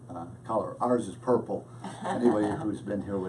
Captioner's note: laughs